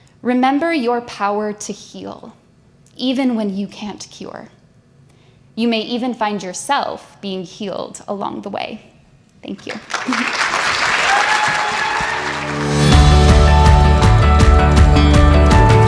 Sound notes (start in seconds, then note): 9.6 audience applauds; 11.8 upbeat music